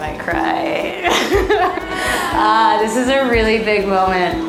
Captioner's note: laughing